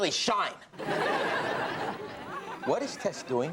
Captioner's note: audience laughs